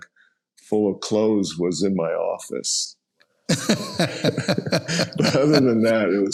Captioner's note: laughs